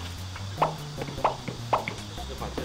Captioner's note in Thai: เคาะ เคาะ เคาะ